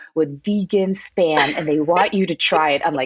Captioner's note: laughs